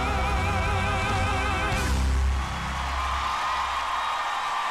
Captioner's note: cheering and applause